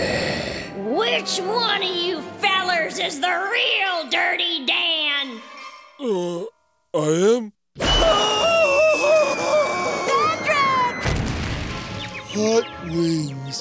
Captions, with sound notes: Which one of you fellers is the real Dirty Dan?! Uh, I am. [screaming] Patrick! Hot wings.